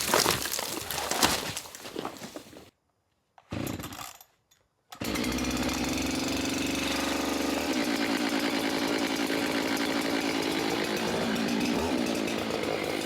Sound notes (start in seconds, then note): 5.0 saw engine rattling